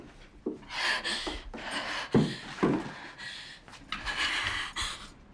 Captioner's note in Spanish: Sigue jadeando